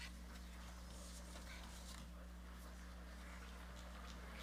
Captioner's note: audience chattering